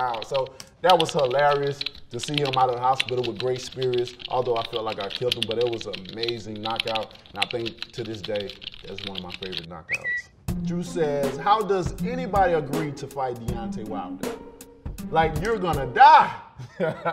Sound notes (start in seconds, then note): 9.8 bird tweet